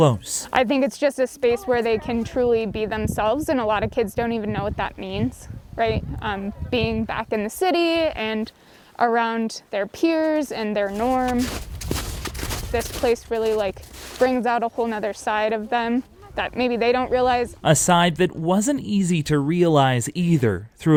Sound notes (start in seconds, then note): 10.7 boots trudge through snow